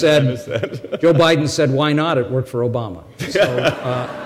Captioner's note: laughter; chuckles